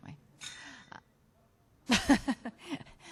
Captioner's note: clanging sound; she laughs